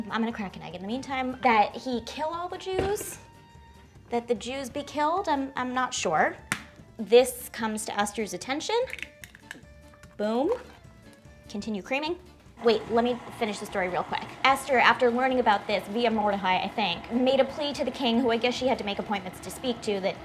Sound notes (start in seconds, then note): 6.4 egg banging; 8.8 egg crackling; 12.6 mixer whirring